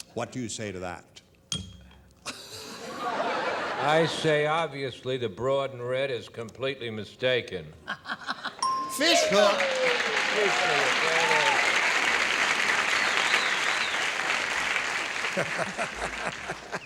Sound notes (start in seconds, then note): 11.7 bell; 13.4 applause